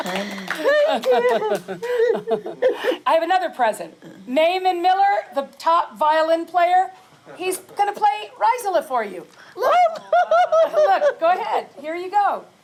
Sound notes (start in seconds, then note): 9.6 laughs